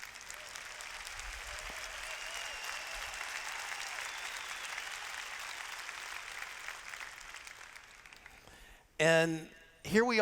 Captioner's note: cheers